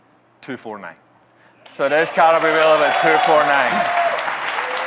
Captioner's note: audience cheering, clapping